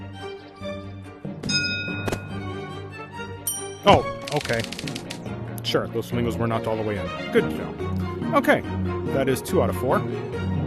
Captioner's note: ding